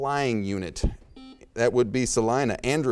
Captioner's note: beeping